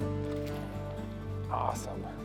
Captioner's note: bright acoustic music; water splashing